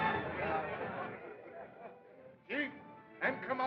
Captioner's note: people Chattering, Laughing